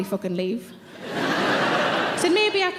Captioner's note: audience laughs